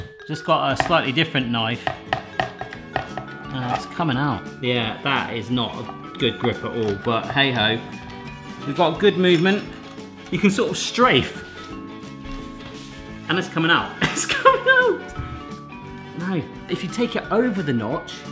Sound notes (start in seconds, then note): 14.0 laughing